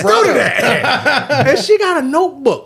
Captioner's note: laughing